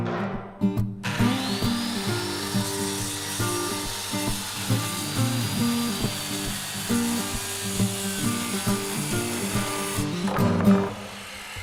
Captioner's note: circular saw